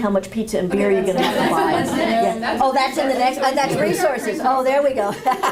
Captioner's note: laughter & audience chatter